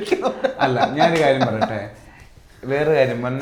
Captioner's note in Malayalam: പൊട്ടിച്ചിരി